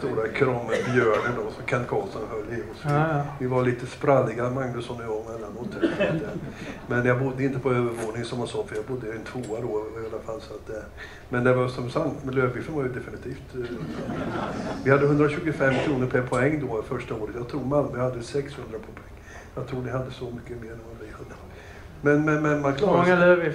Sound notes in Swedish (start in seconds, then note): 13.6 Skratt